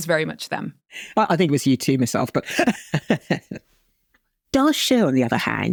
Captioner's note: chuckles